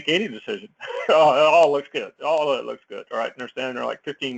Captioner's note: laugh